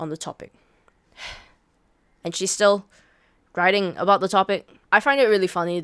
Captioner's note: sigh